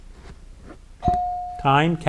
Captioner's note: bell dings